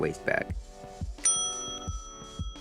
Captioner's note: ding